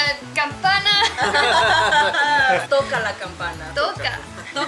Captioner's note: laughter